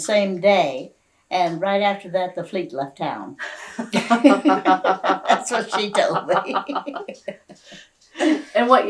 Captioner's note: laughter